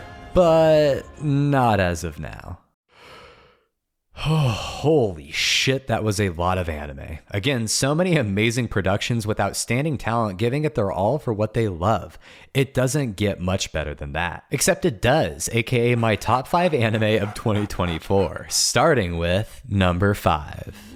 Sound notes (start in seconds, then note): 2.9 deep breath